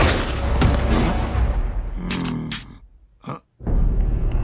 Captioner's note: Fat Tony goes to fire, his gun clicks empty